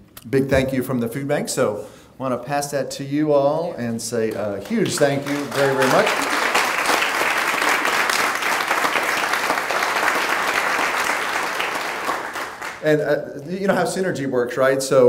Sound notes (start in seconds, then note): 6.3 clapping